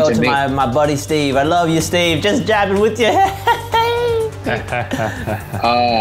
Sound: laughs

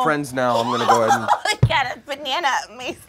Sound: Peach laughs

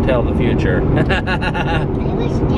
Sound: laughs

